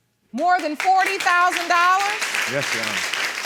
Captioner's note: audience applauding